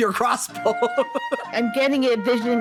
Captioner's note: laughing